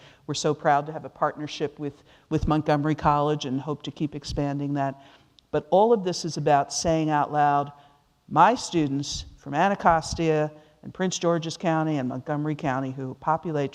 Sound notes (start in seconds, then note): none